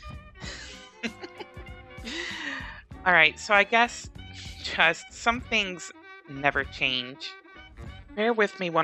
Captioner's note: laughs